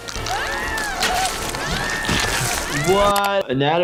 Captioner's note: Nutty screaming; Nutty gasping